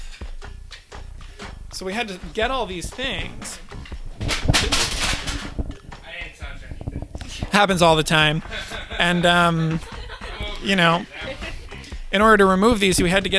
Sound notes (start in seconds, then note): 4.6 metal clanks; 7.2 employees laugh